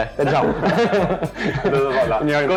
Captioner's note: laugh